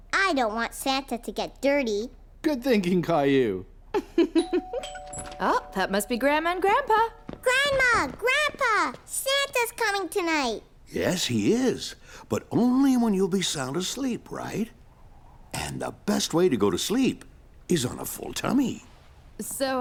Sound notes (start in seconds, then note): 4.4 dingdong